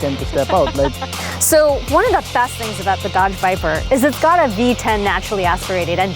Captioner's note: laughs